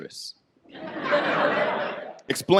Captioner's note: audience laughs